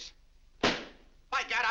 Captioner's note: slams cigar box